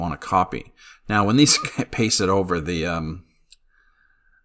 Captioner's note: laughs